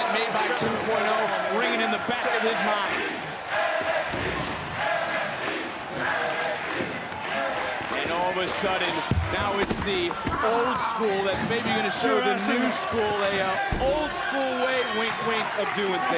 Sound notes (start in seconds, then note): 3.3 crowd chants "nxt"